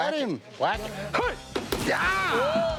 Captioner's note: Jase grunting